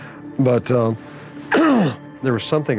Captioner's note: coughs